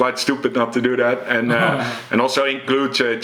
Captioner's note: chuckles